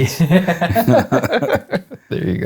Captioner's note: laughing